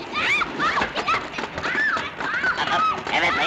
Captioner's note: rollerskates clunking; Olive screaming